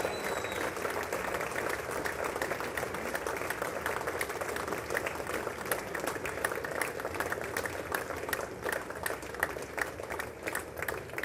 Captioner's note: applause